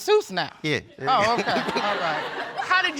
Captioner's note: all laughing